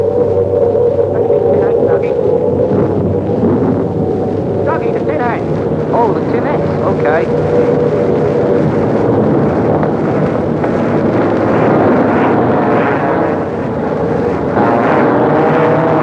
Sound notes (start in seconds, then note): 12.7 airplane engine whirring